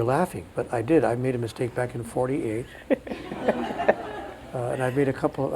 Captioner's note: crowd laughs